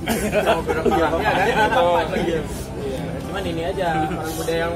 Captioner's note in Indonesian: laugh